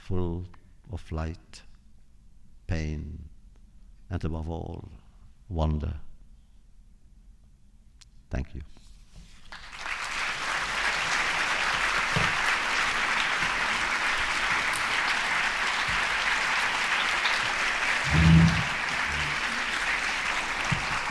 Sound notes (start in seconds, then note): 9.4 applause